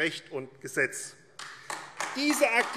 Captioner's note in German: Beifall AfD